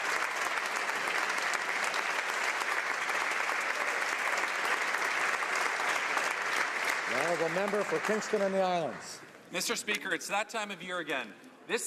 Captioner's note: some Applause